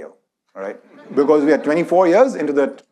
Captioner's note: audience laughs